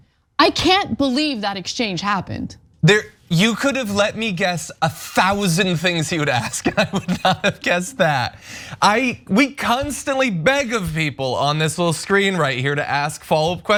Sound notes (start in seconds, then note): 5.3 laugh